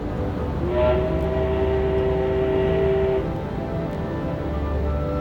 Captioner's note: steamboat Whistle Blowing